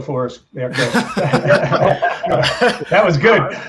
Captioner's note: all laughing